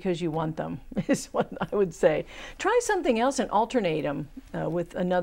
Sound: laughing

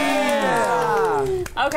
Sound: everyone claps

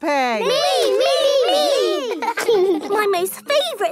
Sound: laughing

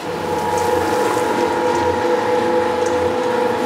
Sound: machine noise

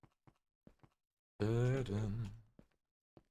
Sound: hums

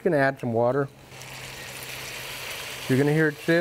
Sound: water sizzles

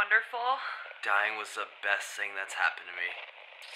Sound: Ghost Woman over radio; Ghost Man over radio

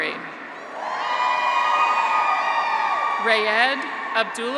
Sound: graduates cheer

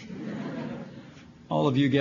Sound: laughter

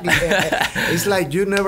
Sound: laughs

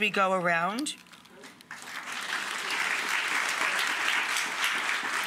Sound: audience applauds

